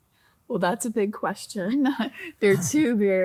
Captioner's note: chuckles